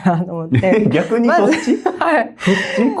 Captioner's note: laughs